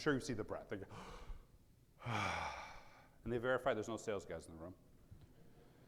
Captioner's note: sighs